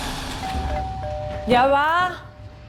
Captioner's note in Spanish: Suena el timbre